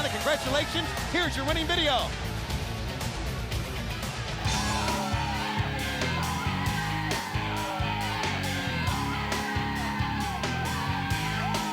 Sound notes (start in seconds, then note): 4.4 upbeat music; 4.4 people chattering